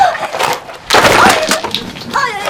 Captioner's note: thing dropping on the floor